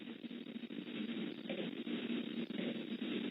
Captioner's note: static